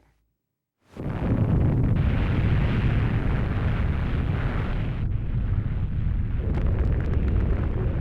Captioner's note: explosion roars